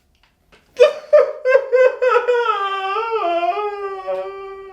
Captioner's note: sobbing loudly